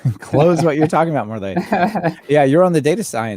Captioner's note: laughing